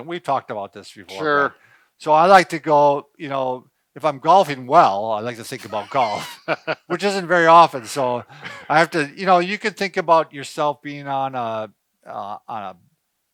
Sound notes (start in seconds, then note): 5.6 laughing